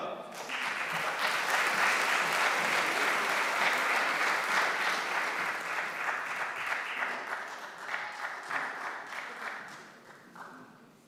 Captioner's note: applause